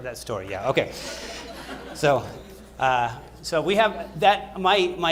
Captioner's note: laughter